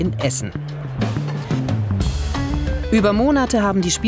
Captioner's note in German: Stimmengewirr, lockere Musik